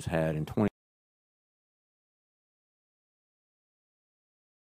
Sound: audio cuts out

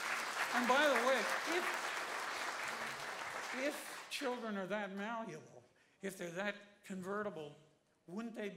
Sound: applause

